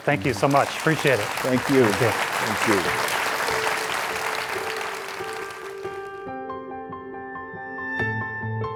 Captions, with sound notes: Thank you so much. Appreciate it. - Thank you. (audience applauds) (bright music)